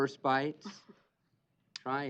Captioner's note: chuckles